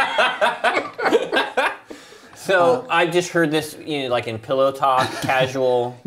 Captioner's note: laughter